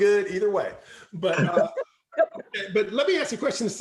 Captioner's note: chuckling